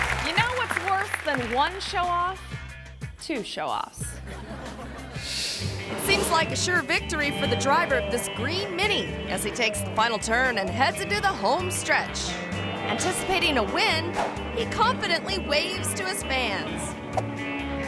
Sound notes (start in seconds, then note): 0.0 audience applauding; 4.1 audience laughing